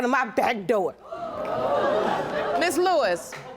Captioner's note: audience exclaims